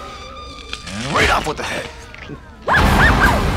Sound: Crunch

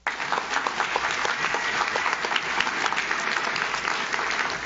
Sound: audience claps

